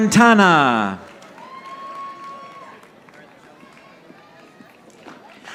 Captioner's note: audience applauding